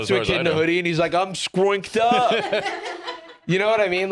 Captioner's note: others laughing